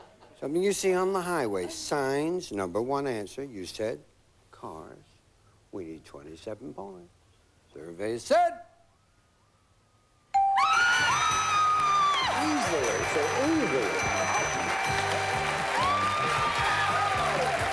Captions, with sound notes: SOMETHING YOU SEE ON THE HIGHWAY. SIGNS, NUMBER ONE ANSWER. YOU SAID CARS. WE NEED 27 POINTS. SURVEY SAID? [SCREAMING] EASY. EASY.